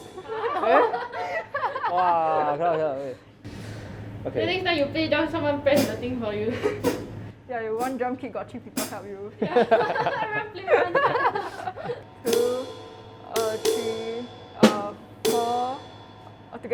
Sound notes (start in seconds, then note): 0.4 laughs; 6.7 laughs; 9.5 laughs; 13.7 drum beat